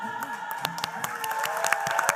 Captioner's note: spanish music; applause